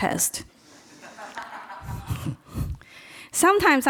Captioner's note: person laughs